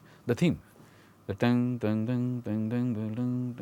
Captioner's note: humming